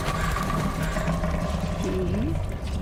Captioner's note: ominous rumbling